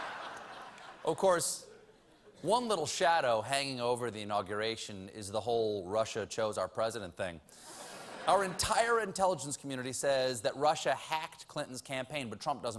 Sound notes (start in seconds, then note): 2.6 laughter